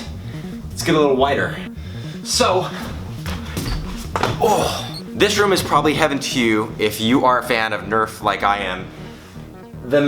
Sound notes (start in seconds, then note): 2.8 screeching shoes; 4.3 grunting